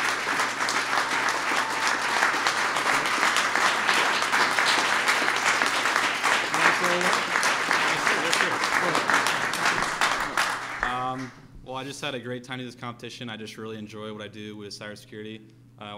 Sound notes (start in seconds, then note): 3.6 applause